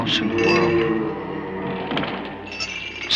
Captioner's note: ghost moaning; floors creaking